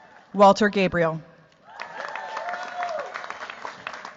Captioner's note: cheers, applause